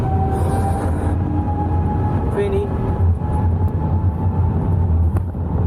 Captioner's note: aeroplane engine whooshing